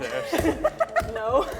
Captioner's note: laughs